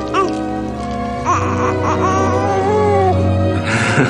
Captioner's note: baby cooing